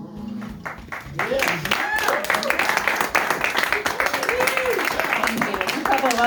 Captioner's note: audience murmurs, then applause and hoots